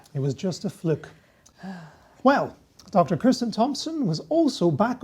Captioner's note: sighs